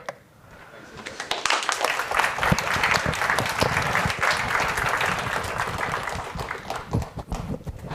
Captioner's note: applause